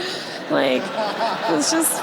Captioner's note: audience laughs